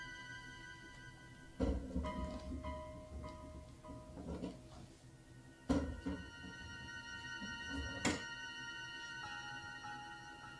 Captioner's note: knife scraping the door